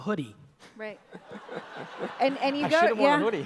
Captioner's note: audience laughs